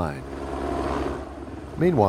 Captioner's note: sound of helicopter